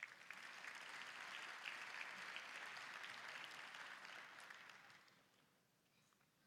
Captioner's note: applause